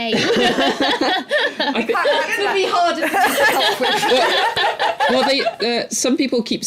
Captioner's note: laughter